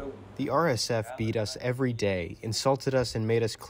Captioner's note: through translator